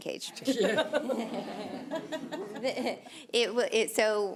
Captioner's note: audience laughs